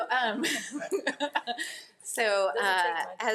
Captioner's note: all laugh